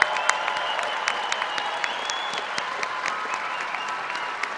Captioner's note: applause